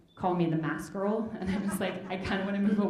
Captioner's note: audience chuckling